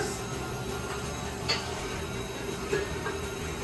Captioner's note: mixer whirring